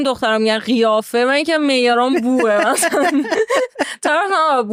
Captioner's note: laughs